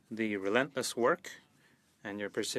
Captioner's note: speaking French